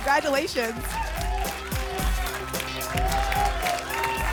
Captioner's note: applause and cheering cont